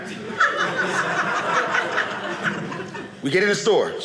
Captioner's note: audience laughing